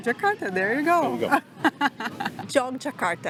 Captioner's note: laughs